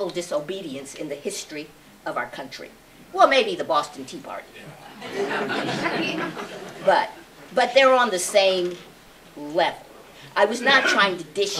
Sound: laughter

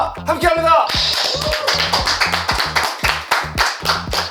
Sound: the crowd cheers

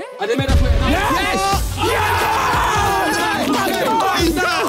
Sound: players cheer

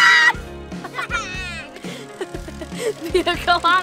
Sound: screaming; laughing

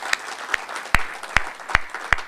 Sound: applause

